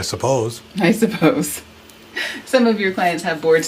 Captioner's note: laughs